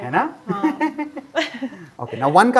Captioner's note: chuckles